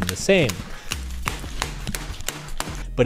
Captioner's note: keyboard smashing